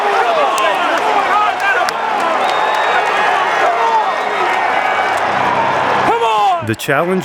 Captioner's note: cheering